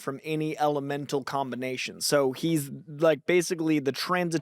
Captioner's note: none